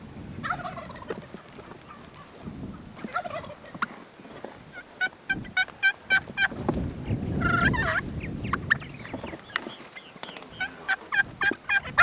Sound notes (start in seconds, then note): 0.6 turkey gobbling; 4.9 turkey call